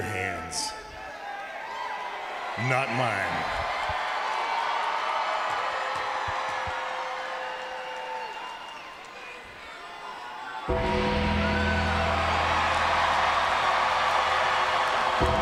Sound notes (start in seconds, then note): 3.4 audience cheers; 10.7 ominous music; 12.4 audience cheers